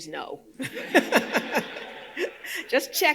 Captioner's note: audience laughing